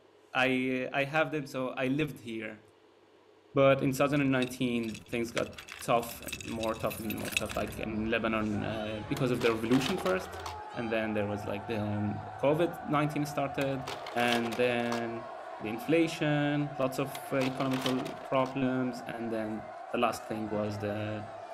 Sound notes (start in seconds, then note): 4.4 keys jangling; 8.3 sounds of protest; 9.2 slide projector clicks; 13.6 slide projector clicks; 17.1 slide projector clicks